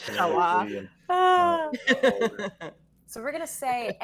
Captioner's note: all laughing